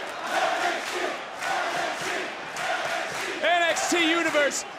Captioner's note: crowd chants "nxt"